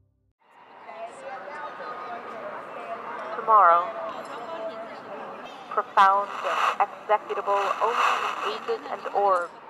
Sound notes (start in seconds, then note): 3.5 sound of static and a woman's voice coming from a radio speaker